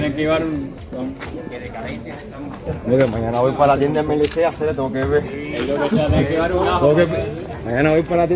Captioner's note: laughs